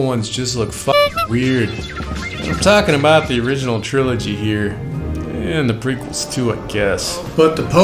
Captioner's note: beeping